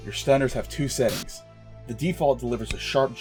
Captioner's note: charging sound